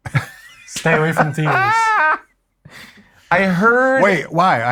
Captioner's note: laughing